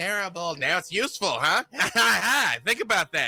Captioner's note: laughs